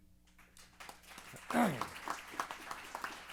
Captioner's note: applause